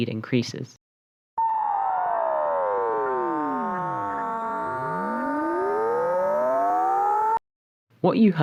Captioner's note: sound gets lower then higher again